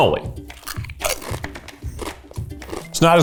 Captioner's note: crunching